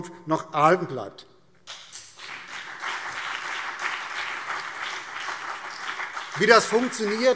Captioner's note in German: Beifall BÜNDNIS 90/DIE GRÜNEN und vereinzelt CDU